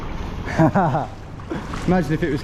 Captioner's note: laughs